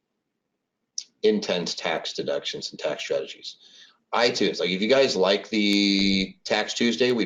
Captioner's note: none